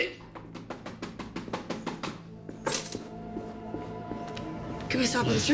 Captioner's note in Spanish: Golpes en la puerta